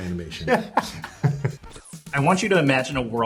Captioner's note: laughter